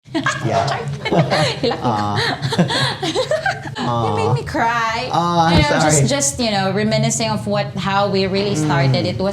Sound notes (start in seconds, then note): 1.0 both laugh